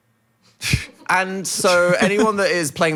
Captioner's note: chuckles